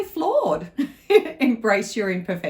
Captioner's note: laughs